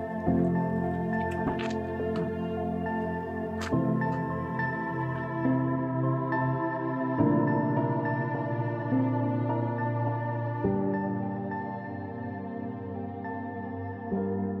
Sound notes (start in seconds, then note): 1.2 vehicle door opening